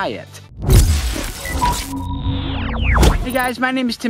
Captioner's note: glass shuttering transition